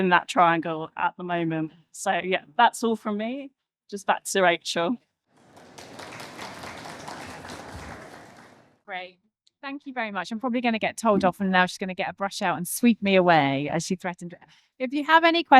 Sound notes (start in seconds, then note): 5.3 applause